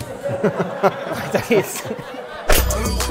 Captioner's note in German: Gelächter